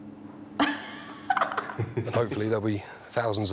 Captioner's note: laughs